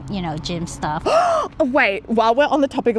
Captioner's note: gasp